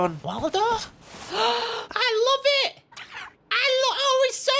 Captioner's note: gasps